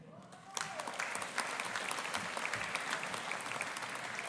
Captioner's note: audience applauding